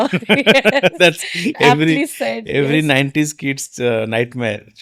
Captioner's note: both laughing